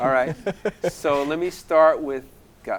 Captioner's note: laughing